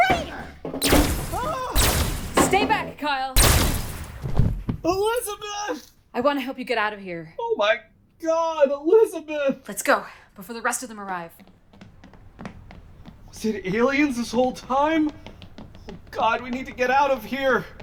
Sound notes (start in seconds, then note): 0.2 furniture crashes; 0.8 laser shooting; 3.3 shooting; 3.4 body falls